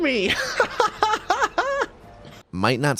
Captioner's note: laughs